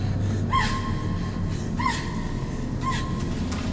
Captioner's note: screams